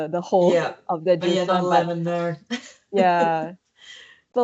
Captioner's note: laughs